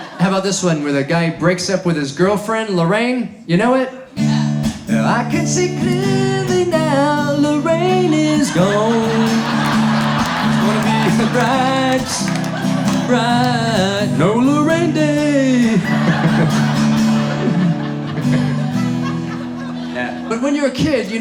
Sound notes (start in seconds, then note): 8.8 audience laughs; 15.6 laughing